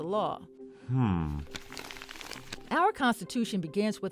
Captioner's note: paper crumpling